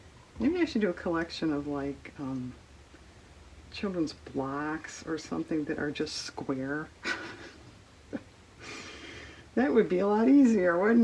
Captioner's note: laughs